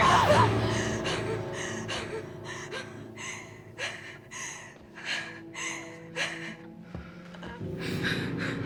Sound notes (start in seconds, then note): 0.5 hard breathing; 5.6 soft music